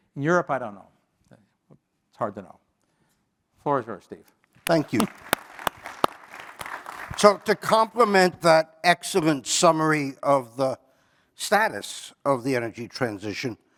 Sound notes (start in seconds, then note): 4.6 applause